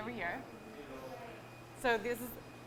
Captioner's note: people talking